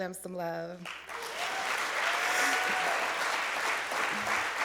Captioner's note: applause